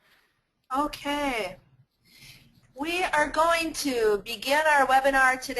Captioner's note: voiceover